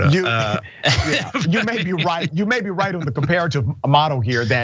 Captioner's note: laugh